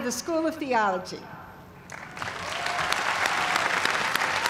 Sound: cheers and applause

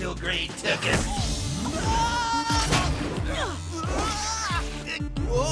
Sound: yells, groans

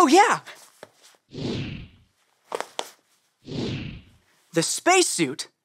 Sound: pictures woosh

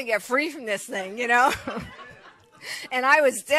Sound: congregation laughs; chuckles

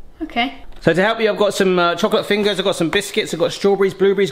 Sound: none

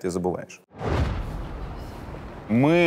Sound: street noise

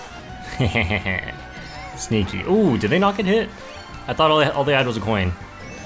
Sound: evil laugh

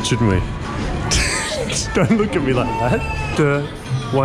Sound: laughs

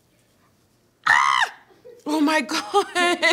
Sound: screams

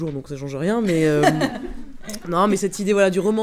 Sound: laughs

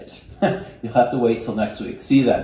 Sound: chuckles

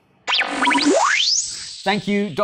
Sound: tape rewinding sound

